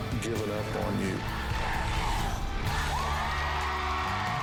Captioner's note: crowd chanting "dr. phil!"; cheering and applause